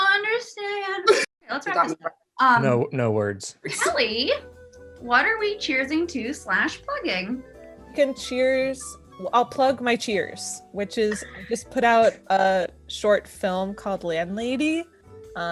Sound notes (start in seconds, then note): 1.0 coughs